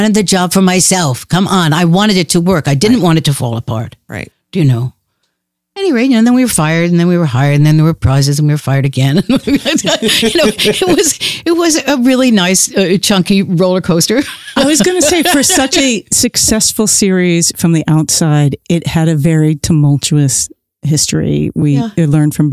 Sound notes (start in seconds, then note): 9.2 chuckles; 13.8 laughs